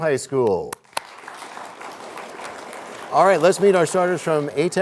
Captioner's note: applause